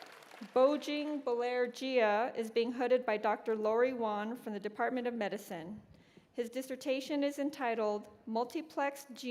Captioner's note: cheers and applause